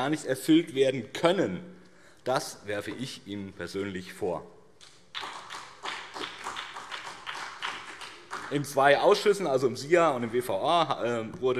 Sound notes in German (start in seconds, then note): 5.0 Beifall BÜNDNIS 90/DIE GRÜNEN und CDU